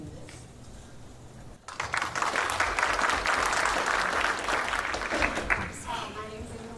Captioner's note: applause